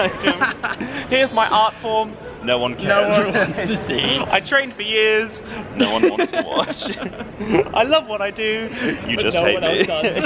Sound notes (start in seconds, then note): 0.0 laughing; 5.8 laughing